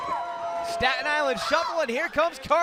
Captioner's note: cheers and applause